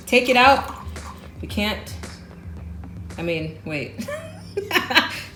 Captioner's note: laughs